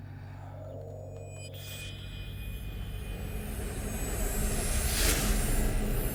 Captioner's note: high-pitched ringing